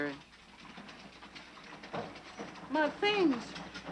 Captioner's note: wagon rattling